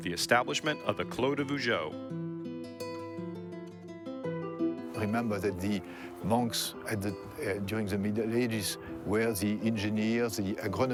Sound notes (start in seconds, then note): 3.6 peaceful harp music; 5.4 with French accent